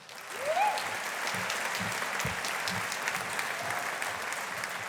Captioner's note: audience applauding